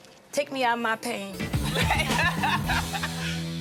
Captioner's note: laughter